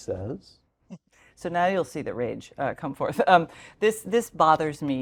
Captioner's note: laugh